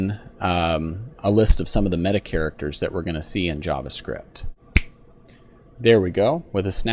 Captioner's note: snap